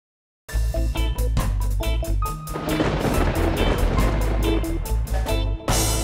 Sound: thunder crackling; upbeat eerie music

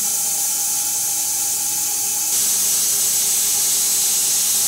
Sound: saw whirring continues

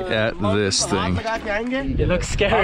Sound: speaking foreign language

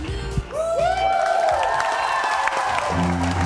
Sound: applause

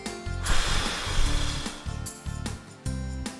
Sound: sound of someone blowing air

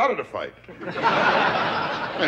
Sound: audience laughter

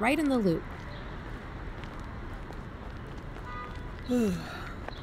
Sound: city ambience fades in, footsteps

